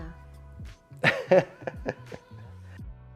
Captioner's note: chuckles